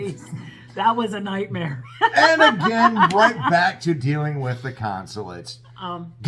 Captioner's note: laugh